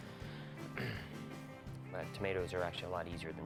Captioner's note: se aclara la garganta